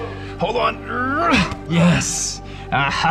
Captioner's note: laughs; grunts